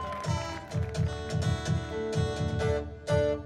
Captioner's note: cheering, applause fades